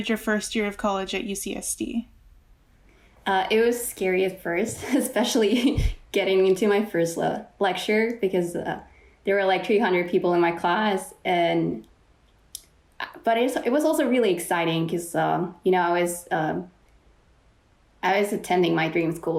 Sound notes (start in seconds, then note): 4.7 laughs